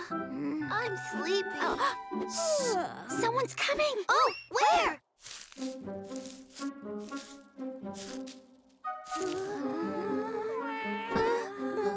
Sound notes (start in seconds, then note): 0.2 yawns; 5.2 rustling